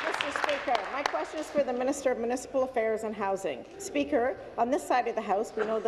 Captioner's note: applause